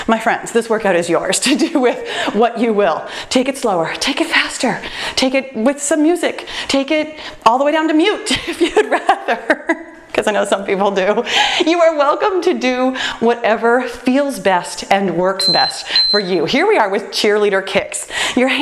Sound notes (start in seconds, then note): 9.6 laughs; 15.4 timer beeps